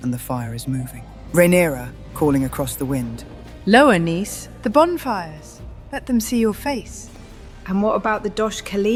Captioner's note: calling across the wind